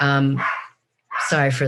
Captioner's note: dog barks